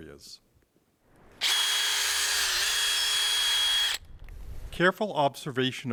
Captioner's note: drill whirring